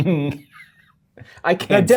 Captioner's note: guy laughing